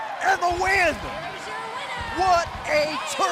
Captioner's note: bell ringing